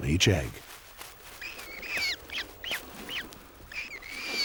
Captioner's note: chicks wailing